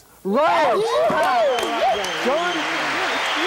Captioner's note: cheering